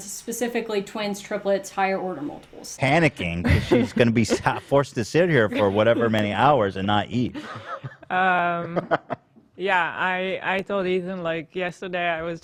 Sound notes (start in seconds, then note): 7.3 laughs